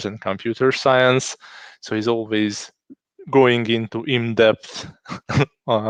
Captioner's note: laughing